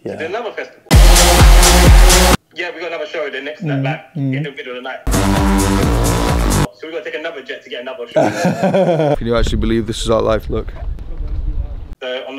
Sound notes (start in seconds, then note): 0.9 upbeat music plays quickly; 5.0 upbeat music plays quickly; 8.1 laughing